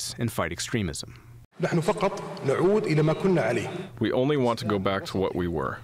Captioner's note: through translator